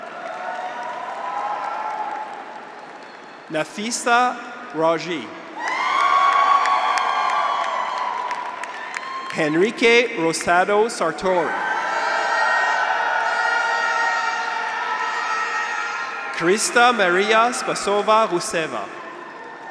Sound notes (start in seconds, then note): 0.0 audience applauds; 0.0 graduates cheer; 5.6 audience applauds; 5.8 graduates cheer; 11.8 graduates cheer; 11.8 horn honks